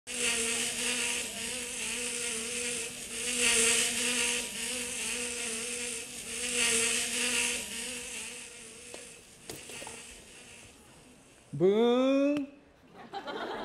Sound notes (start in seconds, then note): 0.0 fly sound